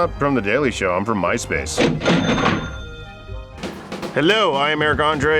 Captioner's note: cash register noises